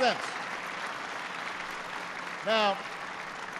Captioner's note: applause